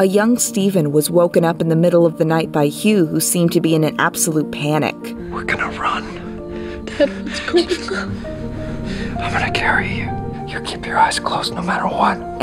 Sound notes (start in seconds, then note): 7.6 Hugh shushes him